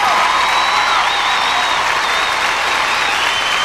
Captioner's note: cheering, applause